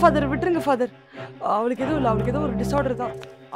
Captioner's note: murmuring